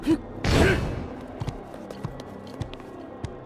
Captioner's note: sword hits